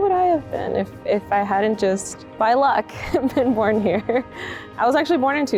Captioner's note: chuckles